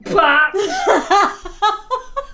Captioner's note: both laugh loudly